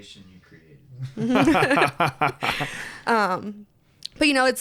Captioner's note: laughs